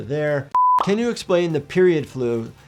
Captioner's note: screen beeping